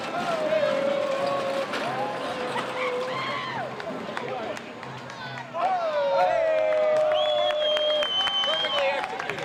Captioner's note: crowd noise